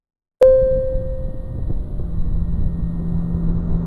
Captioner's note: computer chiming